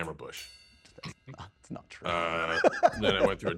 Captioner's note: snorts; laughs